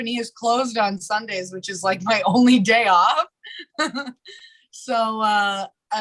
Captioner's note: chuckles